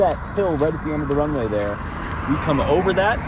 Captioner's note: plane taking off